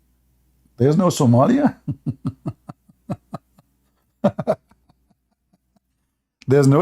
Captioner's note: Ketawa